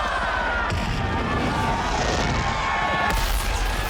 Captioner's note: cheering